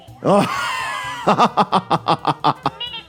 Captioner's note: laughter